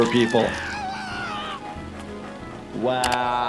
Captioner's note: Handy screaming